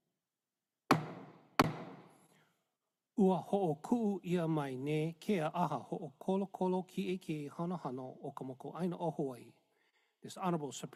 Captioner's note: gavel bangs twice